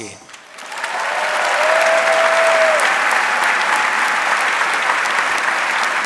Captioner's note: audience cheering and applauding